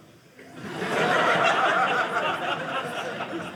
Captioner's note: audience laughing